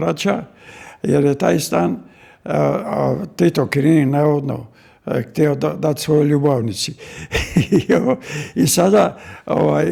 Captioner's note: laughter